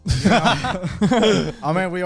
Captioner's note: everyone chuckles